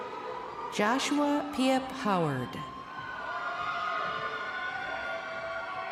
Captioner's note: crowd cheering